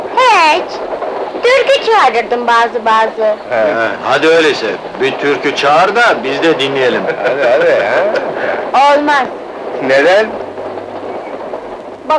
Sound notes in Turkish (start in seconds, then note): 7.0 Çevreden 'hadi, hadi' seslerine karışan gülüşmeler